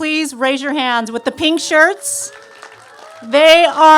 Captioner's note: cheers and applause